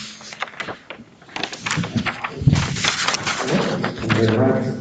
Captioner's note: papers shuffle